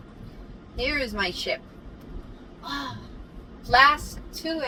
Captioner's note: sighs